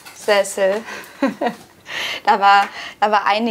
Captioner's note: she laughs